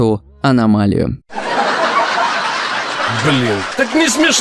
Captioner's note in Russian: Люди из зала, смеются